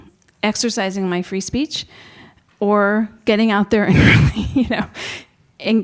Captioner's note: chuckles